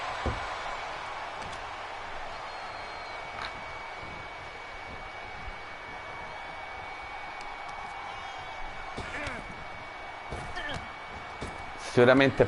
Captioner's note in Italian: Applauso